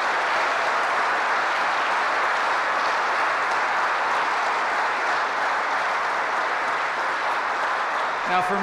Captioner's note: applause